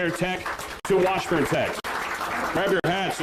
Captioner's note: applause